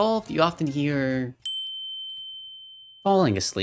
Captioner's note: windchimes